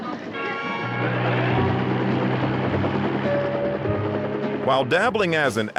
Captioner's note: audience laughing; helicopter blades chuffing